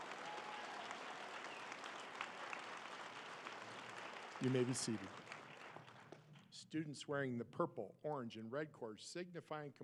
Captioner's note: applause